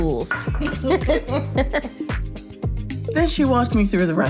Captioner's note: laughs